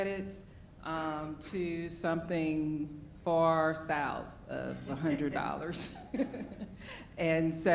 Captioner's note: laughs